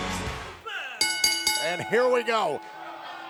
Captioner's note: bell rings